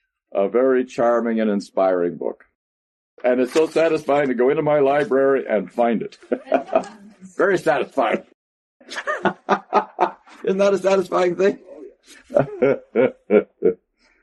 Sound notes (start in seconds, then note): 8.8 laughter; 11.5 laughs